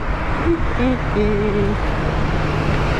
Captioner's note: humming